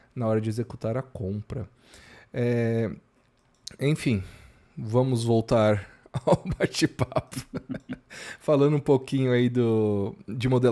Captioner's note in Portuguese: risadas